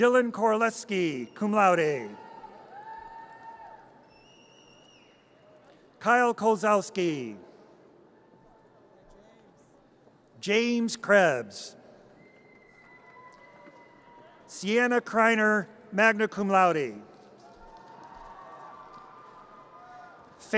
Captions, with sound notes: Dylan Koleski, cum laude. (audience cheers) Kyle Kowsalski. James Krebbs. (audience cheers) Sienna Kriner, magna cum laude. (audience cheers)